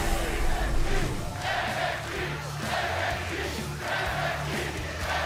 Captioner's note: fans chanting